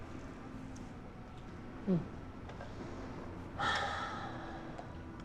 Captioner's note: sigh